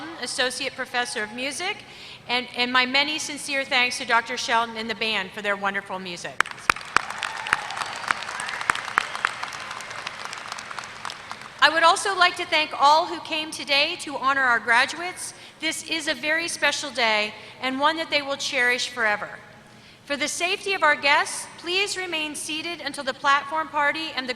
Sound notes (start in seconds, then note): 6.4 applause